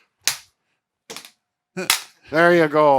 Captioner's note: stik's clanking